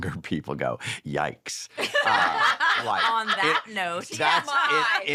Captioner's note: laughter